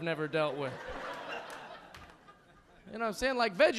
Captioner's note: audience laughing